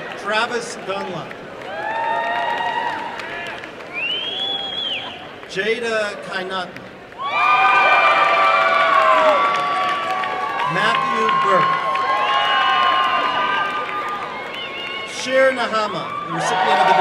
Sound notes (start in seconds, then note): 3.2 applause and cheering; 13.0 applause and cheering